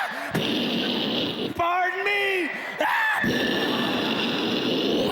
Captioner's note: explosion sounds and yelling; explosion and yelling